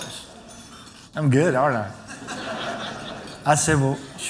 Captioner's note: laughter